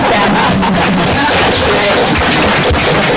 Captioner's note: applause